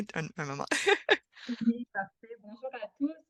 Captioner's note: rire